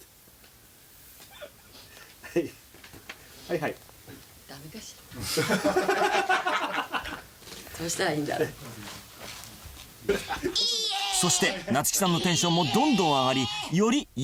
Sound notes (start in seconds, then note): 1.3 muffled laughter; 5.2 all laughing